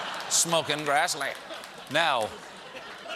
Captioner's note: laughter